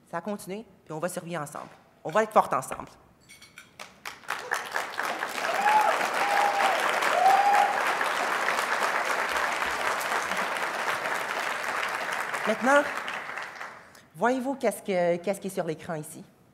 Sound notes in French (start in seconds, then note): 3.8 applaudissements